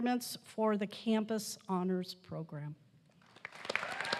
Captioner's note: applause